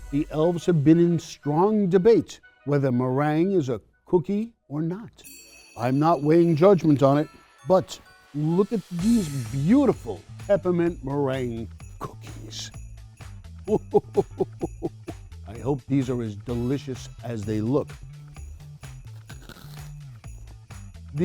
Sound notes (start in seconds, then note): 13.6 chuckles; 18.1 upbeat cheerful music